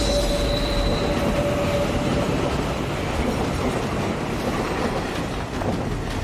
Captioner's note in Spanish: Ruido del tren